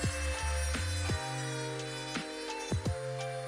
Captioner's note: whirr of drill & music